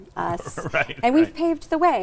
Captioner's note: laughs